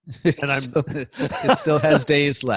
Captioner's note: speaking faintly